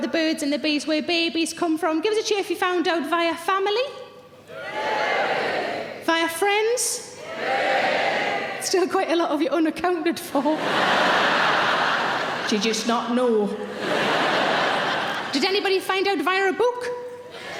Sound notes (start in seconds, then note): 4.6 audience cheering; 7.3 audience cheering; 10.4 audience laughing